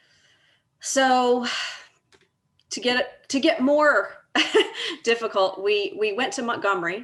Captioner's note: laughs